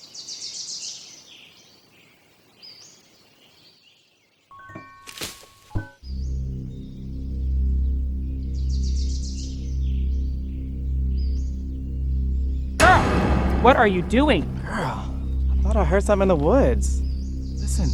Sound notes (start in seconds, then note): 0.7 birds chirping; 4.6 mysterious music; 5.5 twig snaps; 6.3 tense music; 12.8 startling music